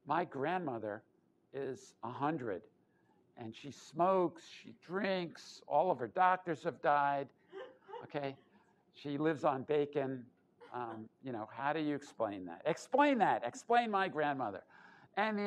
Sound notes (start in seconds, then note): 7.6 laughter